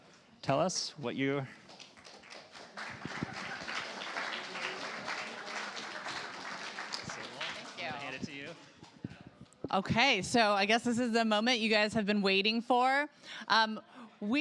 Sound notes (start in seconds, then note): 1.6 applause